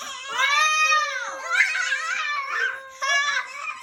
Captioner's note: kids cheering